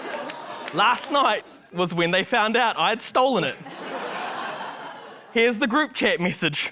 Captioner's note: laughter